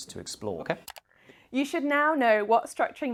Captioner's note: click sound